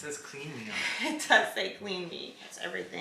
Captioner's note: laughs